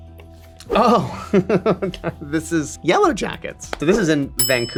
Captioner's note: laughs